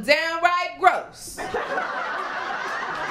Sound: laughter, applause, and cheering

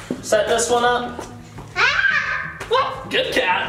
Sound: screams

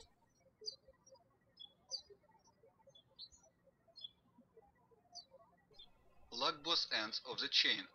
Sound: birds chirping

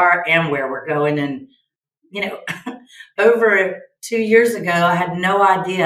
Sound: chuckles

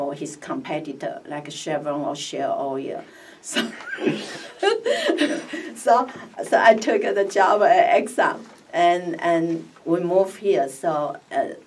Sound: laughs

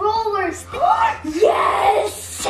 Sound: gasps

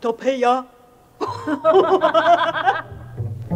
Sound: both laugh evilly

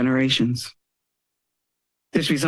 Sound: pause

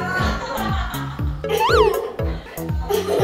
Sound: chuckling

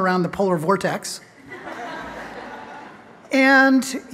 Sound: laughter

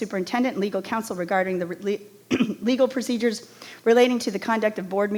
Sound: clears throat

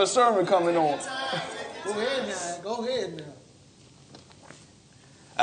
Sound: crowd murmuring

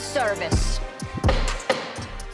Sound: gavel pounds

